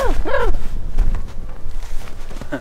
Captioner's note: crow sounds